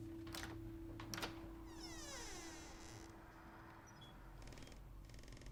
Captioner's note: door latch clicks and squeaks